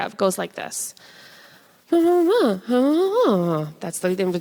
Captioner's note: makes conversational-sounding noise